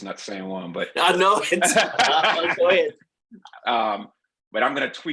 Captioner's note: laugh